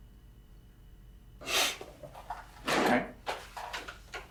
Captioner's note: Evan sniffs